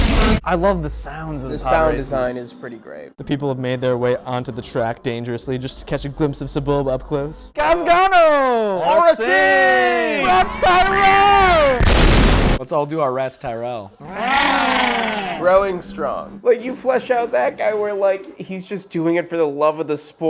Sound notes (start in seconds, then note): 11.8 explosion; 14.0 noises like Ratts Tyrell